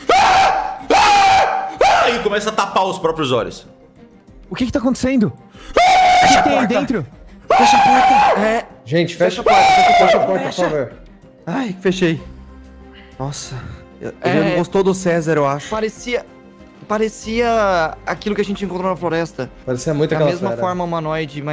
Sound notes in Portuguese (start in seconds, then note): 0.0 <i>gritos desesperados</i>; 7.4 <i>gritos</i>